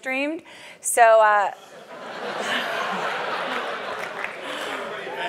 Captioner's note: laugh